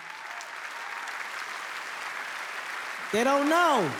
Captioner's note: audience applauds